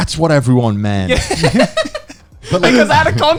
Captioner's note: laughing